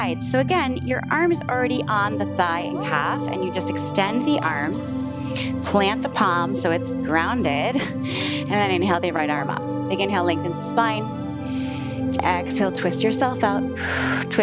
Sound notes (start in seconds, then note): 7.9 chuckles; 11.4 inhales; 13.8 exhales